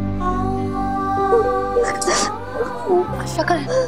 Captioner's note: sobbing